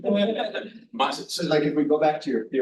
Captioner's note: chuckles